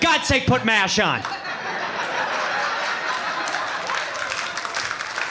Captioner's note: audience laughing